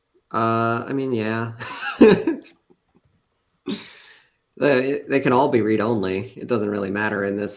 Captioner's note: laughs